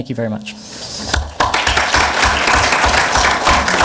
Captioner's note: clapping